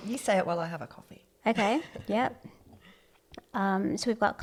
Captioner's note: laugh